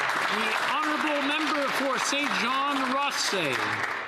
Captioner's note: some Applause